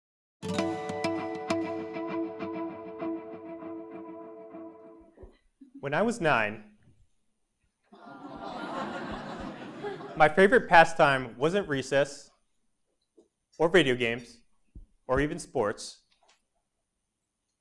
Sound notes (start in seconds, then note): 8.0 laugh